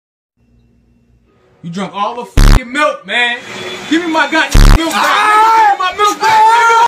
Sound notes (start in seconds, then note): 3.4 Luigi starts up the vacuum; 4.8 Mario screaming